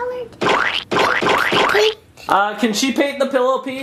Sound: splatter sounds

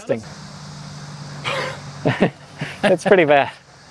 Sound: sniffing

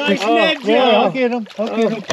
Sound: fish splashing

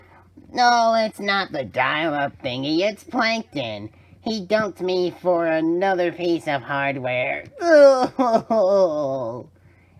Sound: Karen cries

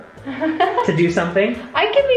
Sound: laughs

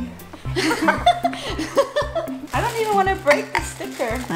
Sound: laughter

